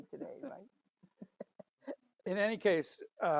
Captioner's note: laughs